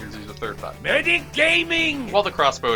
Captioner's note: MEDIC GAMING noises